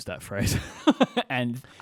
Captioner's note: laughs